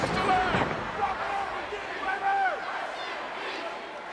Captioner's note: crowd yelling